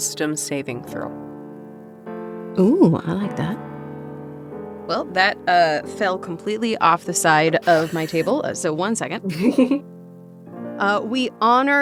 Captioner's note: chuckles